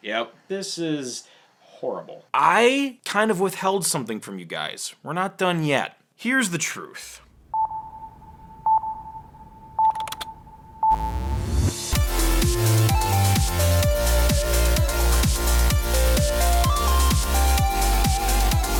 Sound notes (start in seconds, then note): 10.8 beeping noises; 12.8 upbeat music